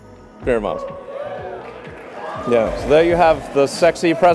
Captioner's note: applause